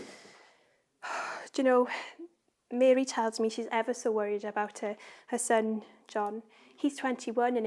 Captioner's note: sighs